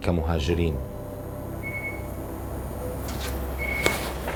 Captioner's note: electronics buzz and beep